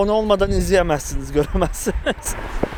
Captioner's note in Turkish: gülmeler